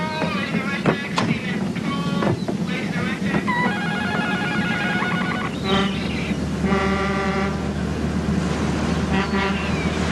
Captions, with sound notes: SEAMAN POOLE, MAN THE RED DECK. [HORN BLOWING] [HONK HONK]